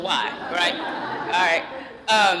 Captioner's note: laughter